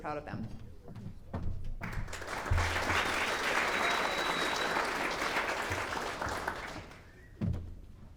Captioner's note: clapping